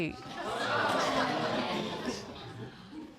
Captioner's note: laughter